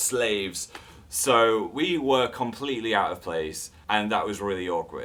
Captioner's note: normal voice